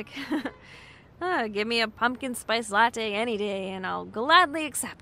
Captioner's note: laughs